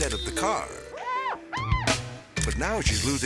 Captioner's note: slippery metal squeaking; whimsical music